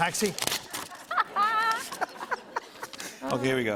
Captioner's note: laughter